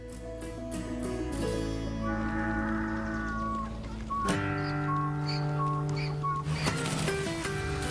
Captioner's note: donkeys braying